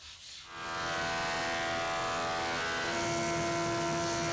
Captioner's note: saw buzzing